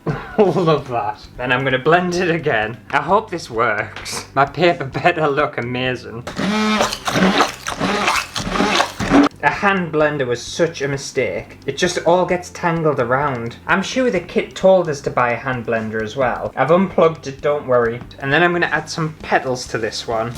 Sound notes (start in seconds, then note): 6.2 blending Noises